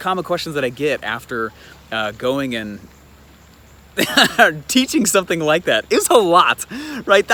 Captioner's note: laughs